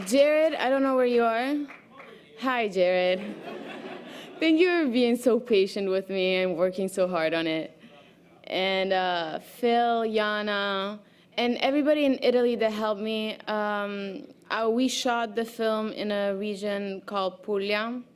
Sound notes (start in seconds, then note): 3.2 audience laughter